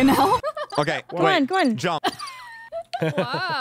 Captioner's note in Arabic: صراصير الليل